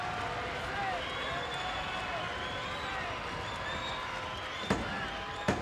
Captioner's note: applause